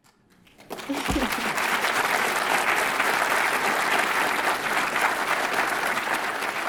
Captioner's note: audience applauds; audience member laughs